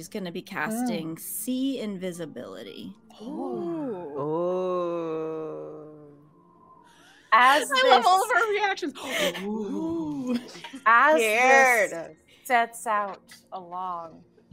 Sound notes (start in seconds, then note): 3.2 all awing; 9.3 oohing